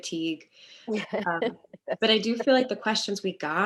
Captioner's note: laughs